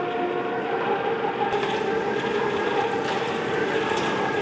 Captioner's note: machine whirs